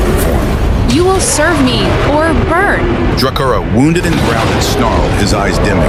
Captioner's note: roaring